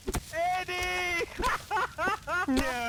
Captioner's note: laughing